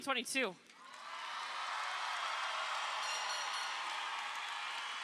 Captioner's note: crowd cheering